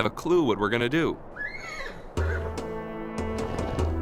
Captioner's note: horse whinnies off screen